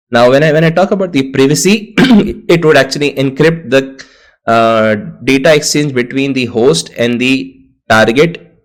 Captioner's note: cough